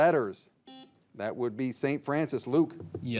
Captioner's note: signal beeps